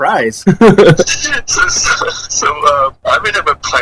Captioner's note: laughs